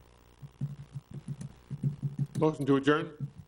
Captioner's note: mic thuds